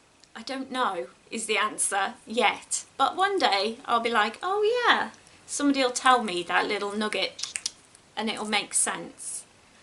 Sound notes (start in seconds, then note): 7.4 clicks tongue